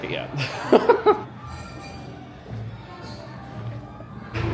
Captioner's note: both laugh